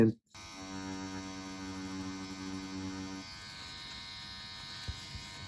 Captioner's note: machine whirring